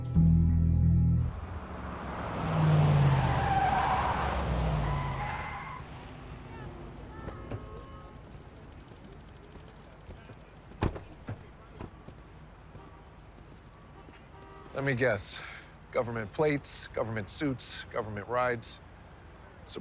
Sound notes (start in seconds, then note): 1.2 car revs; 1.4 tires screeching; 6.0 passersby chattering; 6.6 horn honking; 10.8 car door slams; 12.3 horn honking